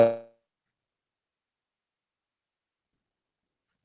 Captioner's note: silence